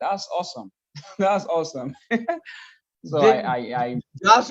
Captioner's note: laughs